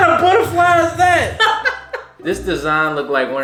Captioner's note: laughing